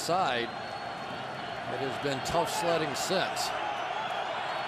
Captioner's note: crowd cheering